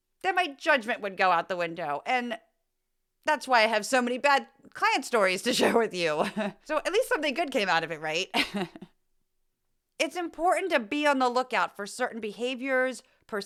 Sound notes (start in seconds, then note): 8.3 laugh